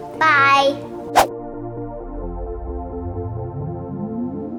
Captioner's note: whooshing